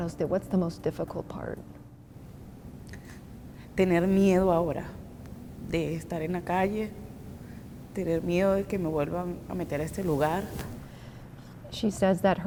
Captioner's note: speaking Spanish